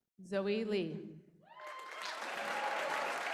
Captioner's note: applause